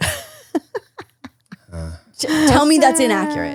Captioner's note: laughs